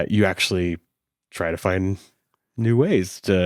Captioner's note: none